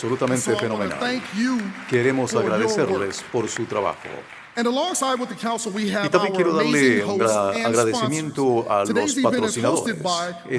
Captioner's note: applause